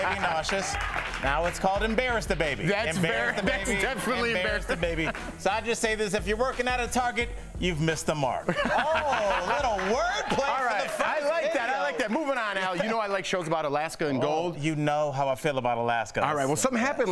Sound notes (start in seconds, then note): 4.1 cheering; 4.1 laughter